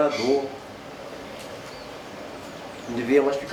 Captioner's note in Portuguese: pássaros cantando do lado de fora